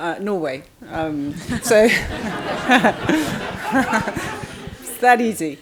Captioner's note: crowd laughing